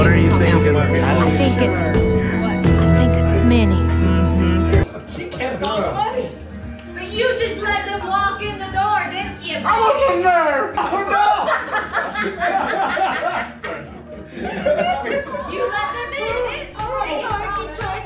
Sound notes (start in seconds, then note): 11.2 man in black jacket and woman in tan vest laugh